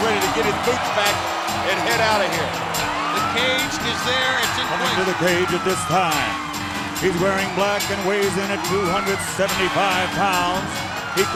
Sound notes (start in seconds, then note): 4.2 speaks faintly